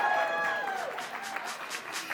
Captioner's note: audience applauding